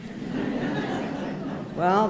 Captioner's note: laughter